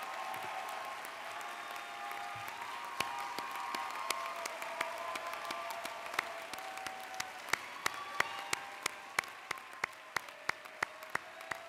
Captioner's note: applause